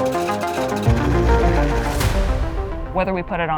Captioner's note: helicopter whirring